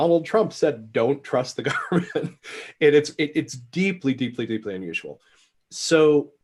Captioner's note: laughs